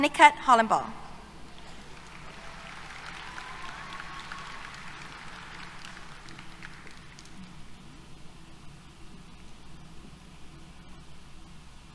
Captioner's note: applause